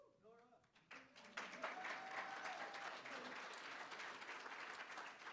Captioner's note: applause